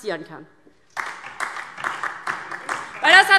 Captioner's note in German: Beifall DIE LINKE